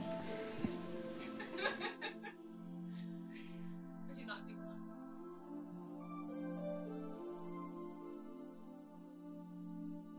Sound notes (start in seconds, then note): 1.2 women laugh; 4.0 wistful music